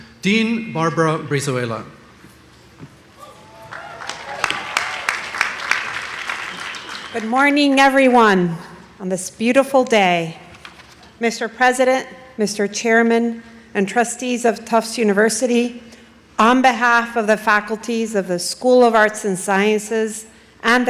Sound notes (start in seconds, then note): 3.2 audience applauding